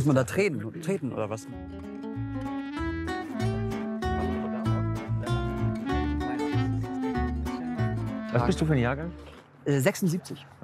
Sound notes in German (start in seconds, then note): 2.2 Entspannte Musik; 4.6 Stilles Gespräch